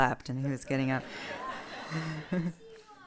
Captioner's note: laughter